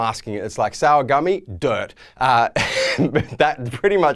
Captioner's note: laughs